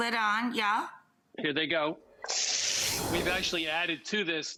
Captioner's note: pan sizzles